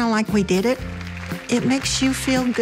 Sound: attendees applauding

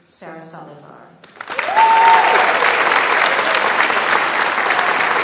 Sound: audience applauds

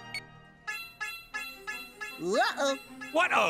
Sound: beeping; alarm blaring

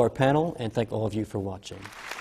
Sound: applause

